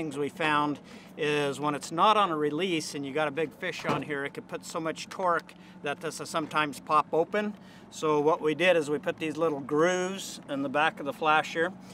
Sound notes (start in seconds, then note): none